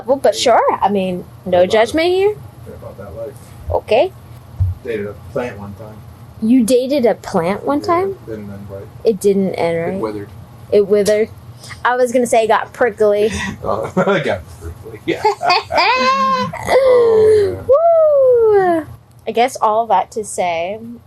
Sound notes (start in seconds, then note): 13.1 hah ha ha